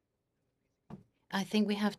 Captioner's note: speaking French